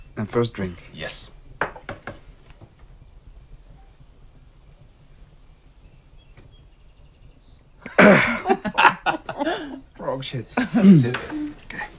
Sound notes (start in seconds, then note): 7.8 laughter